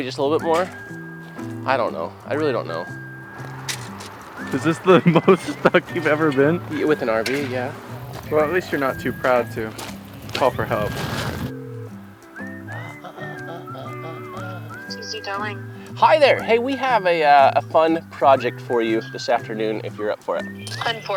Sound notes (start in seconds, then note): 11.7 phone ringing